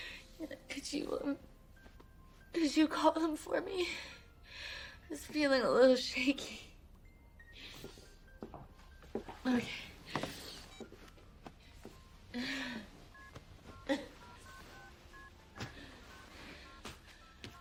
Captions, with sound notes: Could you um, could you call them for me? I'm just feeling a little shaky. Okay. [dialing]